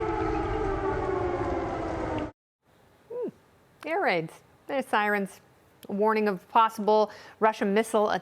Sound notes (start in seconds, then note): 0.0 siren